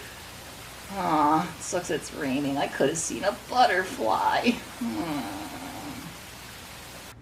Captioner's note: groans